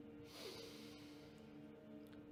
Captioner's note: deep breath in